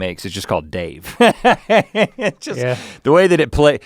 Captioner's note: Rhet laughing